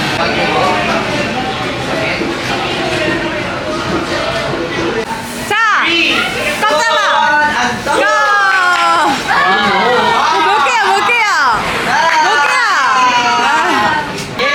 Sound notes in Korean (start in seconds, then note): 8.0 으아악!